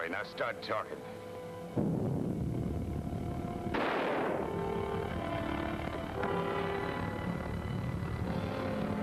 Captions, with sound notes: Now, start talking. (island rumbles) (gunshot bangs)